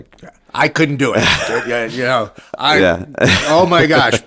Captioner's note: laughs